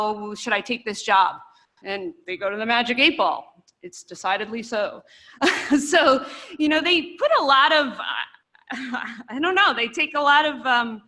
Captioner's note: laughter